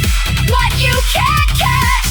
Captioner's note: turbine spool-up, low boom swell